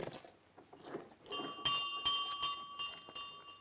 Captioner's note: bell rings